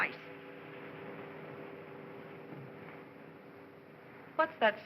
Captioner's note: sound of ocean